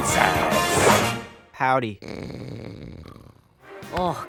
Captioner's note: snores